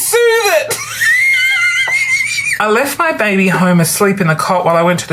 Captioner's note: belly laughs